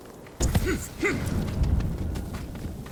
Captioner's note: grunting